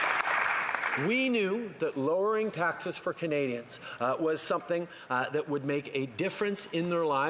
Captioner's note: some Applause